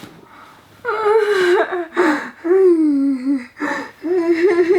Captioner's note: laughing